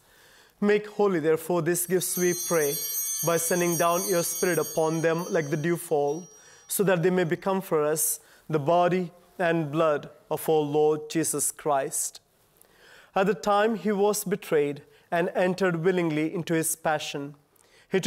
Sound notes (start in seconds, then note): 1.8 chimes ringing